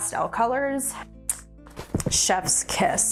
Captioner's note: lips smack